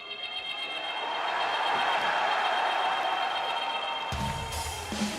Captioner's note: cheers & applause